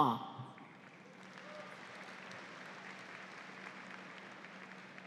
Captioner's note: audience applauds